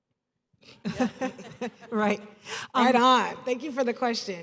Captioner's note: laughter